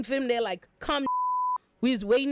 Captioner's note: beep